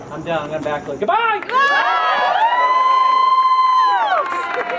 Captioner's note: crowd cheers